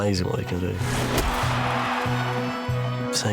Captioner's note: crowd cheers